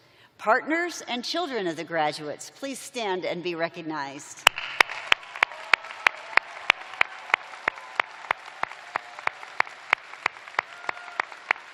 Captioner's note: cheers and applause